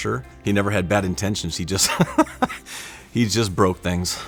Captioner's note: laughs